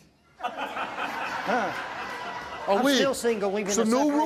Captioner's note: laughs